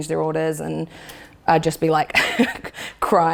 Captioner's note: laughs